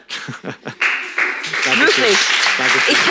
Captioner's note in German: Er lacht; Applaus